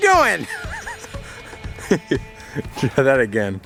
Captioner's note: laughing